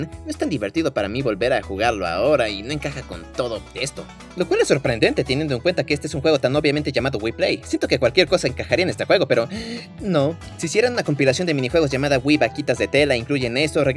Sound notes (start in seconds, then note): 9.5 sigh